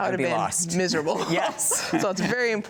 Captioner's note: both chuckling